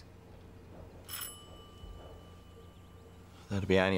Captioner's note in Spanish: suena el timbre